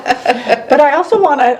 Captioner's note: laughing